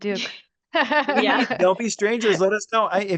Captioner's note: laugh